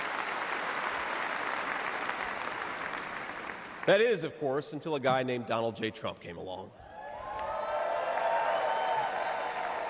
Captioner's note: applause